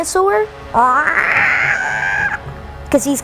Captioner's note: mimics dinosaur sound